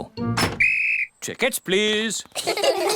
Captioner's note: blows whistle; all laugh